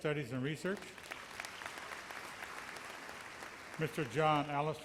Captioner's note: audience applauds